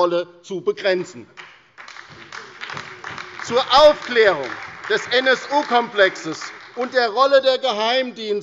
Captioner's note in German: Beifall bei der LINKEN, der SPD und bei Abgeordneten der FDP